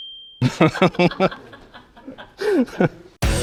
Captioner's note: laughter